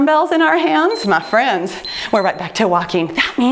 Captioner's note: timer beeps